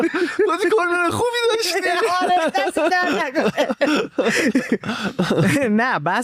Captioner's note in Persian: خنده